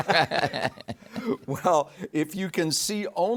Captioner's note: group laughing